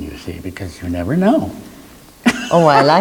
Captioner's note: laughs